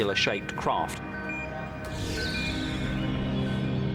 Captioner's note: radar beeping